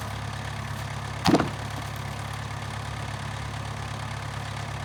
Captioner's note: machinery rumbles